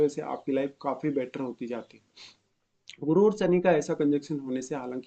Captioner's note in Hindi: नाक से की जाने वाली आवाज़